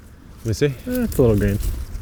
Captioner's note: grunts